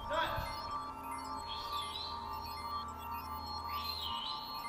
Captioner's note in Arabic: صفير